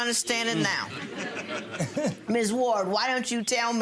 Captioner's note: audience laughing